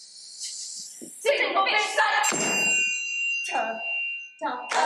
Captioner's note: bell dings